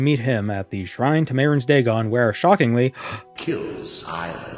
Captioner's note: gasp